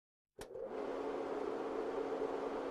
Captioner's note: projector clicks, whirrs